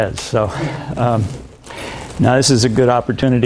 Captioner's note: laughs